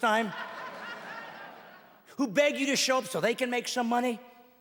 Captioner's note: laughing